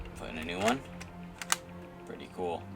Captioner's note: reloads